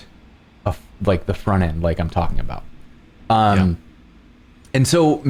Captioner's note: laughing